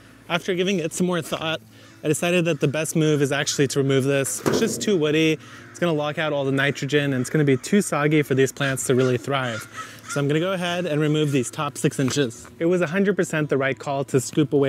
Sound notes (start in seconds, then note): 4.4 soil thumps; 9.6 bird caws